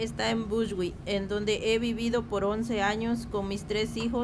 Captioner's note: speaking spanish